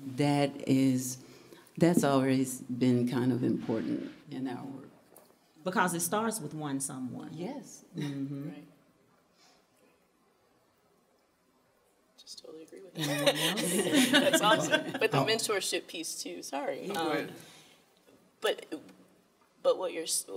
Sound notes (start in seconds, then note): 13.0 laughter